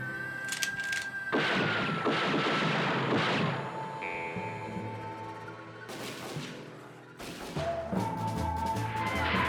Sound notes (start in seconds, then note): 1.3 gunfire